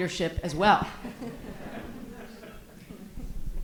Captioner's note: audience laughs